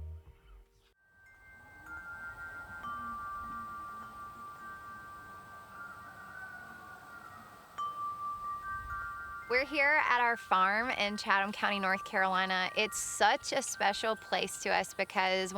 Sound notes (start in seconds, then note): 1.8 wind chime ringing